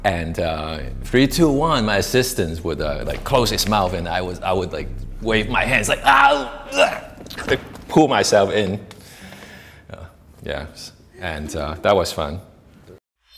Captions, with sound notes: "Three, two, one...” my assistant would close his mouth and I would be like waving my hands like “arrrrrr" (groaning) like pull myself in Yeah…that was fun